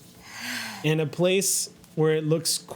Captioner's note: sighs